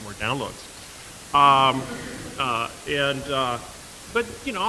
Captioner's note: laughter